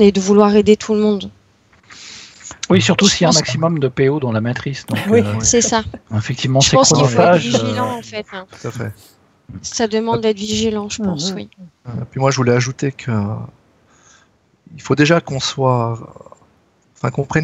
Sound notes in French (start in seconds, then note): 4.9 rires